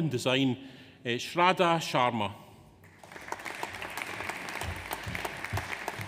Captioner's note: audience applauds